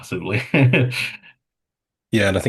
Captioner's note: chuckles